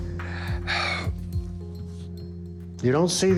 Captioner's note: sighs